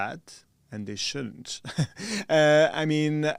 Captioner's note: chuckles